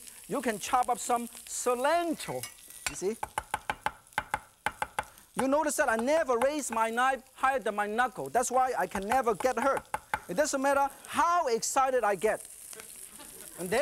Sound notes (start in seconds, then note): 4.6 knife tapping; 12.8 audience laughing